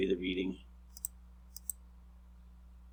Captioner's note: clicking